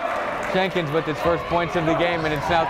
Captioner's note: clapping